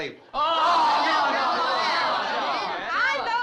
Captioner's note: crowd groaning